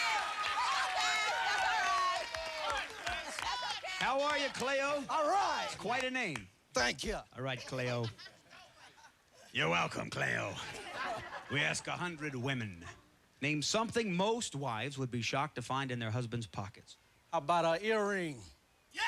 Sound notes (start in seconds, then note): 9.3 deep voice